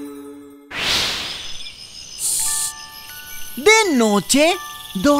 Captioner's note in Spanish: Sonido de grillos